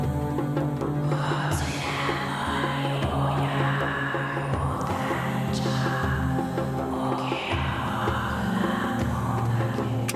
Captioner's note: raspy whispering in a foreign language